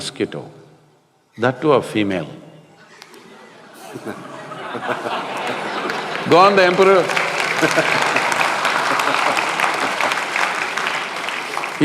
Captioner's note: laughter/Applause